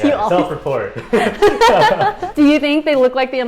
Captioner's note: both laugh